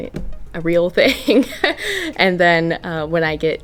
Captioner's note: laughs